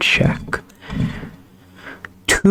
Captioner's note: inhales Oxygen